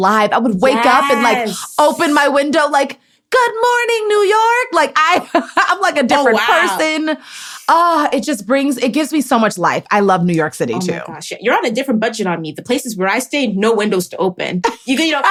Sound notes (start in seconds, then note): 5.2 laughs